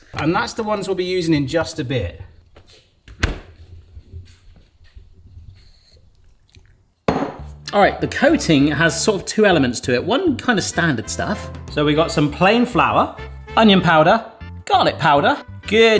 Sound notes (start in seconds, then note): 3.1 door closing; 6.0 licking